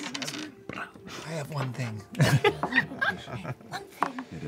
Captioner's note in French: rires